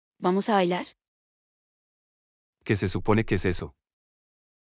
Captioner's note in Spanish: none